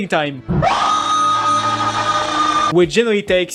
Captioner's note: scream of despair